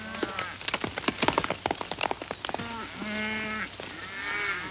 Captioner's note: horse galloping